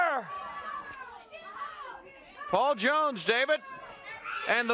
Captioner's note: crowd chatter